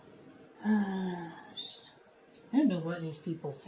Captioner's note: sighs